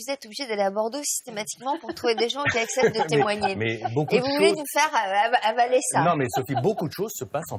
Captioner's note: laughters